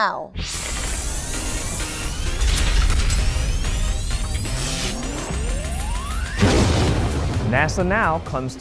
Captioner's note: sound Effects